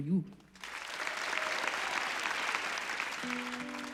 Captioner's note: applauds